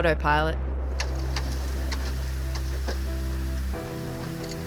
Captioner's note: scrapping noise